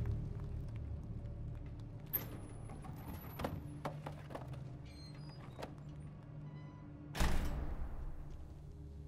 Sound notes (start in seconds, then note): 2.2 door opening; 7.1 door closes